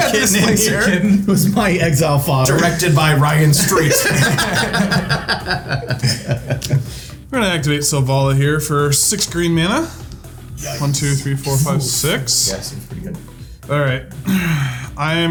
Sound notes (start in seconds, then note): 3.9 players laughing; 14.1 sighs